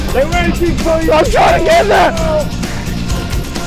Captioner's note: panicked screams